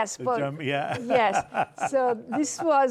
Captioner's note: laughs